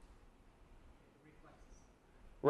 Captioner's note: voiceover